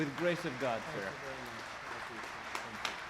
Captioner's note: applause